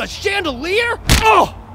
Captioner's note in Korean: 빢!